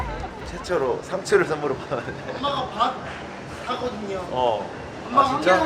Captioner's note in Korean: 웃음